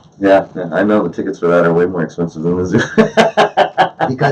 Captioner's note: laughs